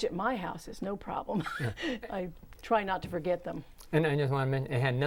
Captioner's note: laughing